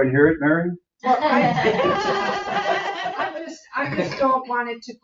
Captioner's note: everyone laughs